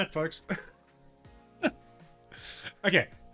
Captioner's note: laughs